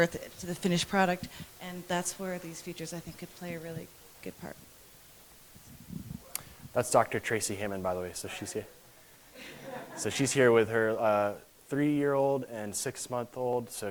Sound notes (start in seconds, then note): 9.4 laughter in audience